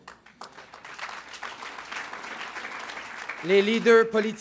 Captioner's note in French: Acclamations et applaudissements